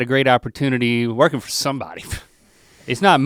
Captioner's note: scoffs